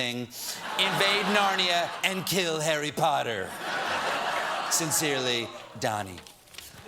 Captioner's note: laughter